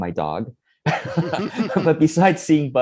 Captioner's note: laughs